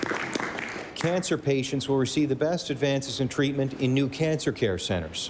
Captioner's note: applause